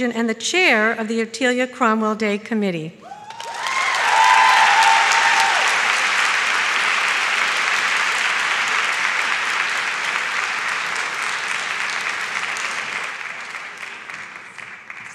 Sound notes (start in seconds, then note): 3.6 audience shouts and claps